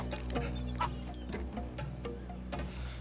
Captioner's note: groans